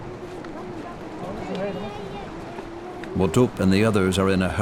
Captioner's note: speaking foreign language